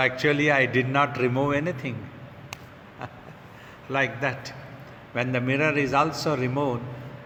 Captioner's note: chuckling